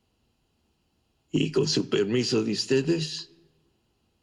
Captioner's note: spanish